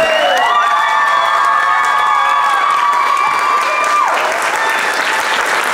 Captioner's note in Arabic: الضيوف يهتفون ويصفقون